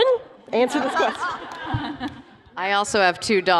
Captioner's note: laughter